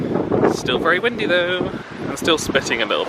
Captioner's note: wind buffeting mic